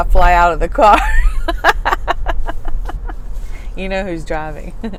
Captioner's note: chuckles